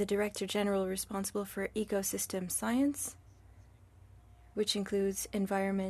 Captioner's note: speaking French